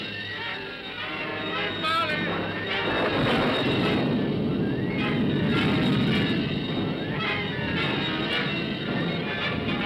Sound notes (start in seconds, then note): 0.2 dramatic ominous music; 2.1 thunder rumbles; 2.8 dramatic ominous music